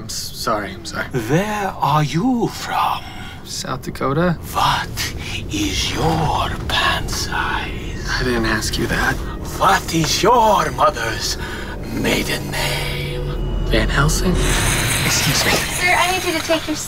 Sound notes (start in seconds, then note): 13.3 hissing